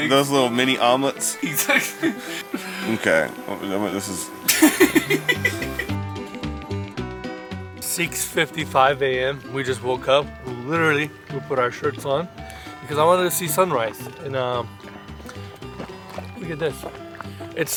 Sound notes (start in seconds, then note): 4.4 laughing; 6.1 upbeat music